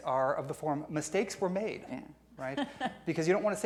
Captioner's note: laughing